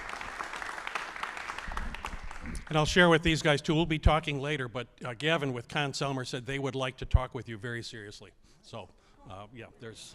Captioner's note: applause